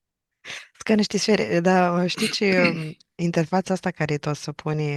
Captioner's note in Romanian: voce dreasă